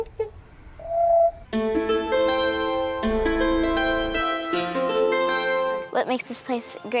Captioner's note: bird squawking; dramatic music